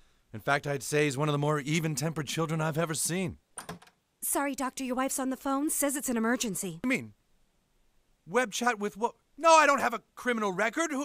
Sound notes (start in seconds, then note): 3.6 door opens